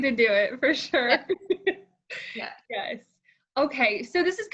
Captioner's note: laughs